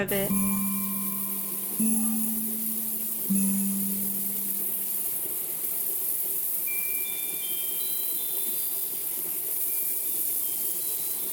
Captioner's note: water sounds